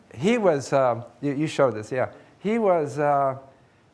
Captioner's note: none